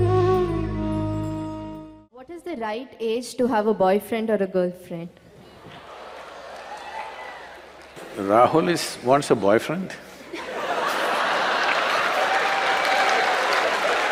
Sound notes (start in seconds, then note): 5.6 laughter; 10.2 laughter/Applause